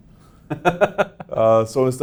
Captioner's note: laughs